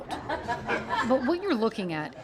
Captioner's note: group laughs